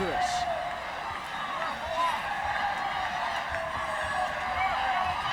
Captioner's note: crowd chattering